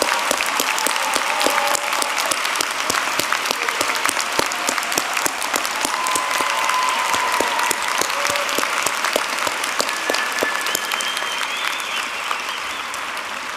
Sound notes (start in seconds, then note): 0.0 applause